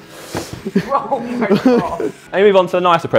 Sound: laughs

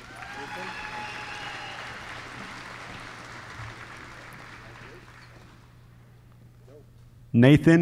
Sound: applause

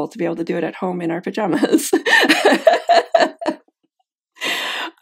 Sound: laughs

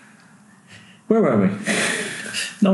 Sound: laughing

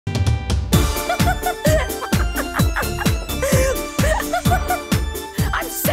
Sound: laughing

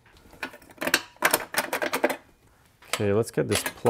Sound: metal clanking

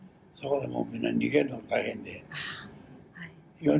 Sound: foreign language

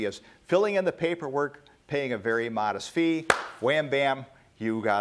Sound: claps

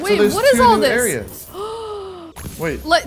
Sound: gasps

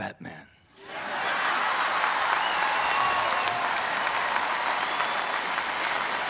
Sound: audience cheering and clapping

